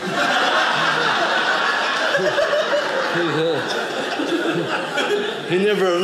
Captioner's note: audience laughing